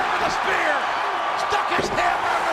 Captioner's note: audience cheers